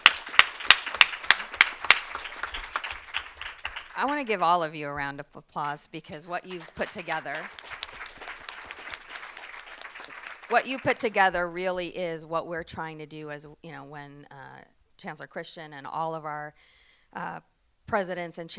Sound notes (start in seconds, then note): 0.0 all applauding; 6.3 audience applauding